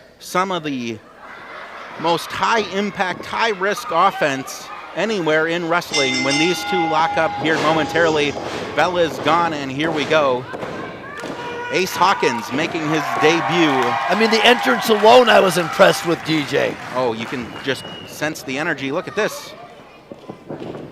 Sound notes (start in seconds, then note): 10.6 thudding; 11.8 shouting